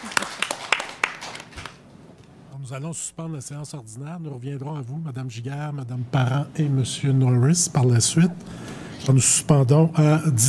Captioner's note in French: applaudissements